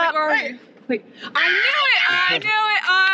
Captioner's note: screams